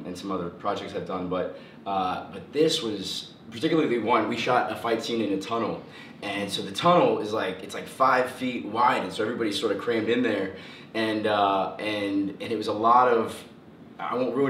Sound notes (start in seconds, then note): none